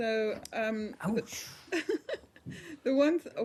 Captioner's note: laughter